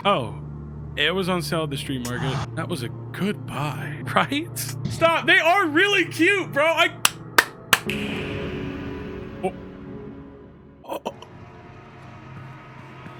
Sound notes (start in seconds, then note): 7.3 claps; 9.5 Skull stammers